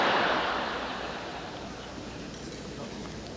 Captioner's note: audience screams